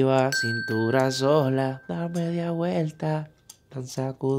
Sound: singing in foreign language; positive beep

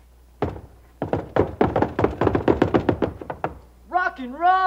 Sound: knocks on door

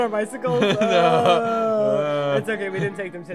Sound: laughs; drunken groans

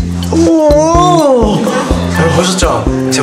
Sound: argh!

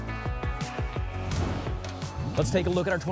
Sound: whoosh

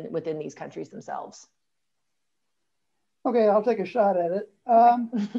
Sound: laughter

